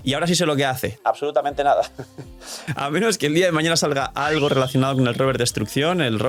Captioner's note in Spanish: risas